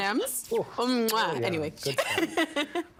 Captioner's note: laughing